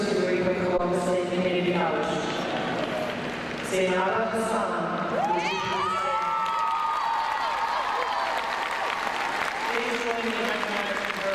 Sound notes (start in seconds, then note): 5.1 crowd cheering